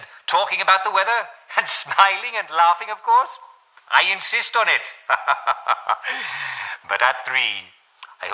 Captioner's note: laughs